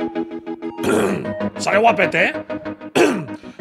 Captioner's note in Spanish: carraspea